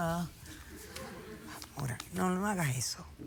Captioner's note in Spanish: risas